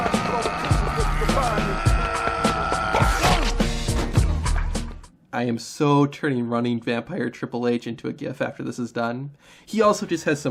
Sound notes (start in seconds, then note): 0.0 Jarko shouting; 3.3 Jarko grunts